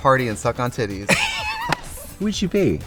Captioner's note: Katya laughs